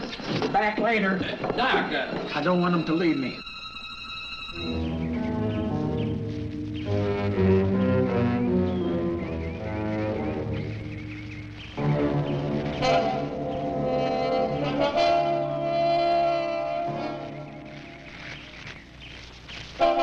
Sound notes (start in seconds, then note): 4.0 ominous music; 5.5 birds tweeting